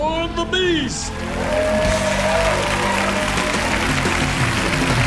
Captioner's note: audience applauding